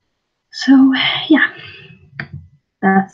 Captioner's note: exhale